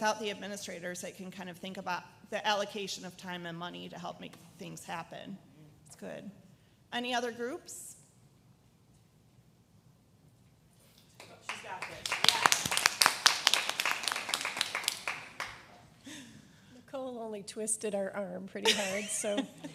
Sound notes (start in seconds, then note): 13.7 audience applause